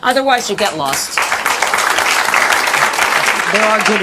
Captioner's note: audience clapping